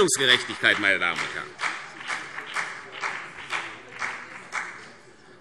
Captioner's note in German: Vereinzelter Beifall CDU und BÜNDNIS 90/DIE GRÜNEN